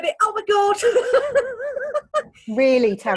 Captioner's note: laughing